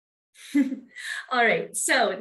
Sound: chuckles

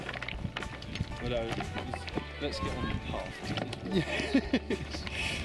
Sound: laughs

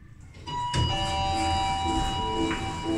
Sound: Down chime rings

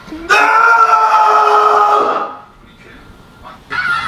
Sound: screams

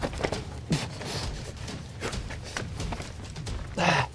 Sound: panting

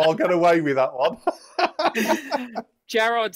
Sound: laughs

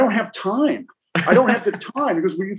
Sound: laughs

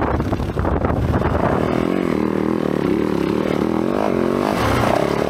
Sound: engine revving

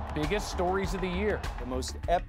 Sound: cheers and Applause

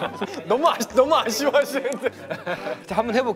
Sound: haha

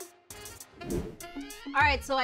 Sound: upbeat music; scene change swooshes

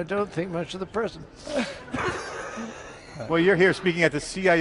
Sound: laughs

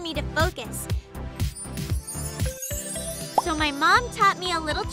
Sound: shimmering

